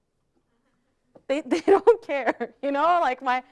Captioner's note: laughs